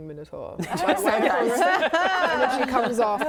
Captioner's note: laughing